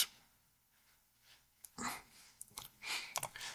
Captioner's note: keyboard clicking